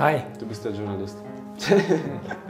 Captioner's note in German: Lachen